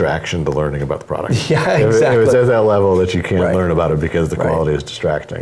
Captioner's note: laugh